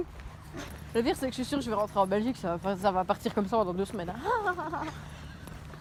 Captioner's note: bad laugh